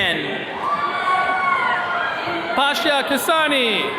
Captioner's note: attendees cheering